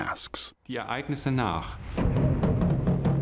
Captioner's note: non-english speech; ritual music